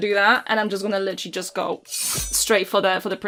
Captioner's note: schiiiing of a blade